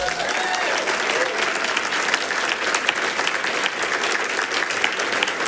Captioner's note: people cheers and clapping